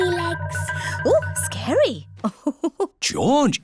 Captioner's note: laughs